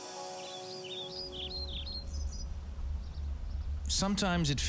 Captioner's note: birds chirping